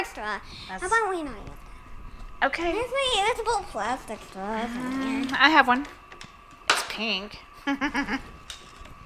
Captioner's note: laughs